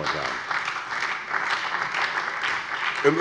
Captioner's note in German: Beifall bei der SPD